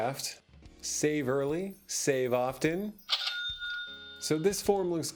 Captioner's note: cha-ching